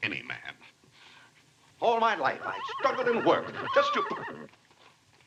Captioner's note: horse neighing